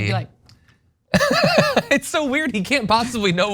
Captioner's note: laugh